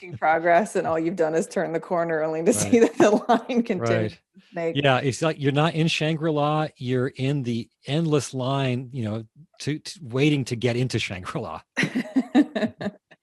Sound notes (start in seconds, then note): 11.8 both laughing